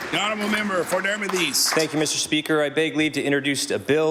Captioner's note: applause